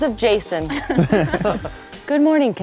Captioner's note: laughing